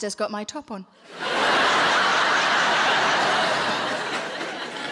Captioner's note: audience laughing